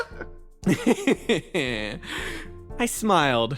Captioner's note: Etete Laugh